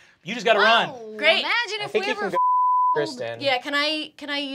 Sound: beep

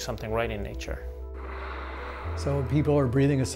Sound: water spraying

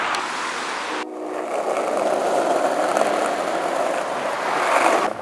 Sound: skrateboarding

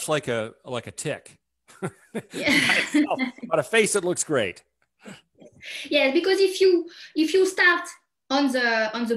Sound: laughs

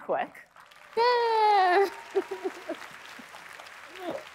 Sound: applause

